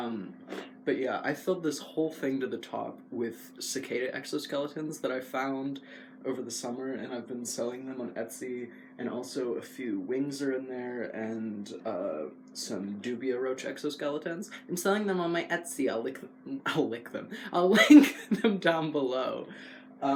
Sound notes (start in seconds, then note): 17.7 laugh